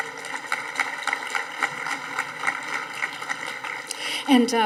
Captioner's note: audience applauding